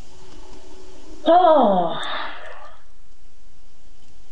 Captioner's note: sighs